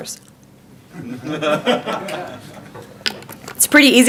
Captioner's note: audience laughing